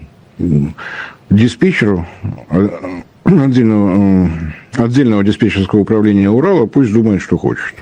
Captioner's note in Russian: откашливается